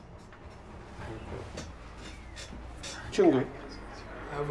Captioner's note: table Creaks